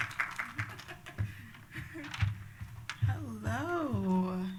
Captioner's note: laughs